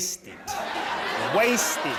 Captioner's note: audience laughing